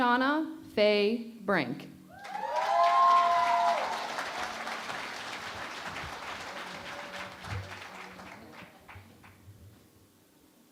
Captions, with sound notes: Shauna Faye Brink. [ Cheering and Applause ]